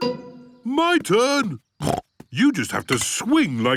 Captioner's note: snorts